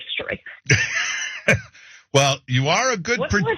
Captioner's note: laugh